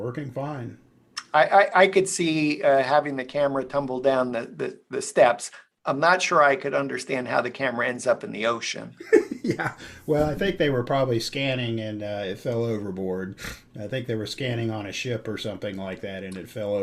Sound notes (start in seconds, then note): 9.0 laughter